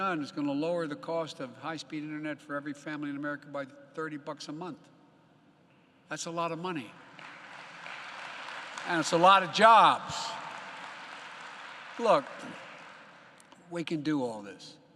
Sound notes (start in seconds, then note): 6.9 applause